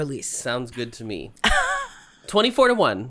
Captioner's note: laughs